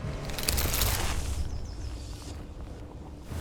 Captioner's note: rustling